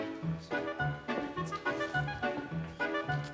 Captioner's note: none